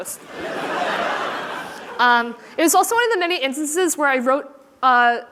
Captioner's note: laughter